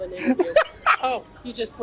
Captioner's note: laughs